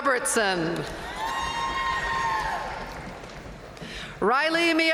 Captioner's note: audience cheering and applauding